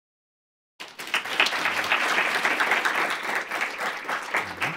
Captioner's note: applause